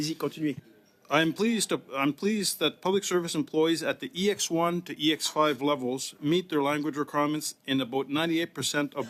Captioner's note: speaking French